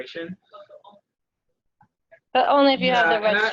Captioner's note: audio drops